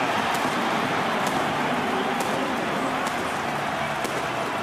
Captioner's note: cheering